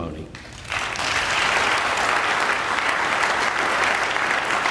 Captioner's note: audience applauding